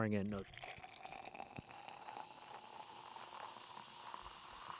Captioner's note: drink fizzles